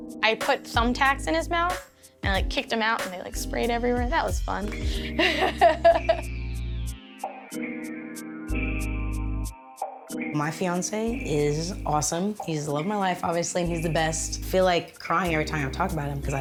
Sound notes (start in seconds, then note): 5.1 laughs; 6.4 gentle music